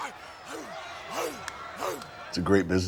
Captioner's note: Rick barking